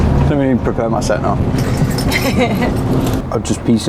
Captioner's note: chuckling